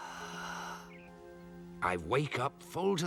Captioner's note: sighs deeply